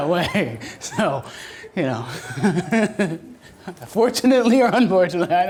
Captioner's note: laughs